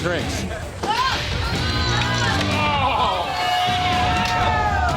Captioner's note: groans